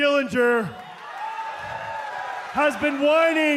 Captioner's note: crowd cheering